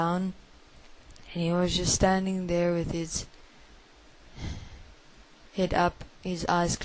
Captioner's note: sigh